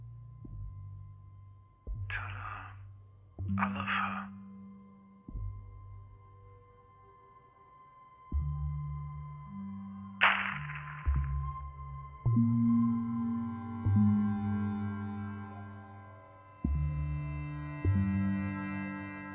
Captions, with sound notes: ...tell her, I love her. (smashing sound)